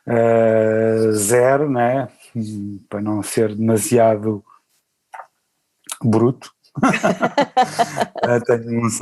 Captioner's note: laughs